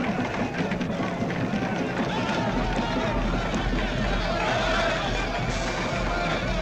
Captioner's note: rhythmic percussion music; group shouting; tense orchestral music